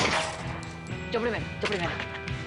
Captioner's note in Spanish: Disparo